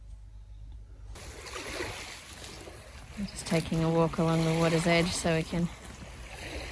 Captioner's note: waves lap loudly